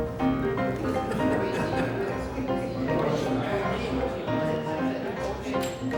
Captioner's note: chatter